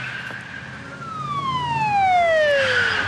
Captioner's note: siren wails